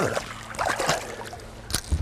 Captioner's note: splash